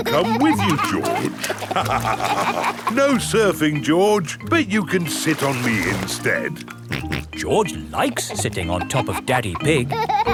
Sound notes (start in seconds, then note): 0.0 snorts and laughs; 2.0 both laugh; 6.8 snorts